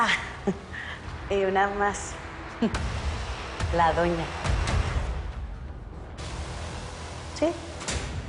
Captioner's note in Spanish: Ríe